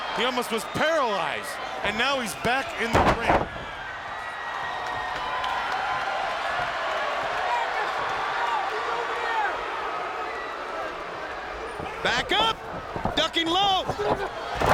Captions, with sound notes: He almost was paralyzed, and now he's back in the ring. (crowd cheering) (Scott shouting) Back up! Ducking low!